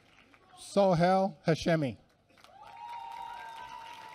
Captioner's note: applause